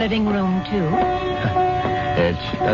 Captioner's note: laughs